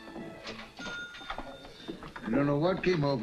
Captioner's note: cash register rings